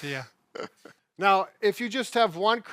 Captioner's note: chuckle